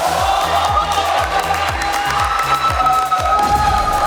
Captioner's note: clapping